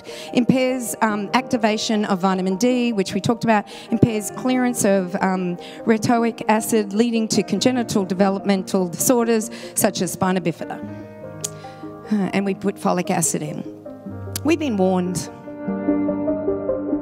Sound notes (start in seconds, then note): 12.5 sighs